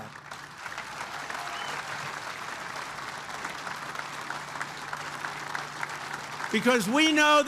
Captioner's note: applause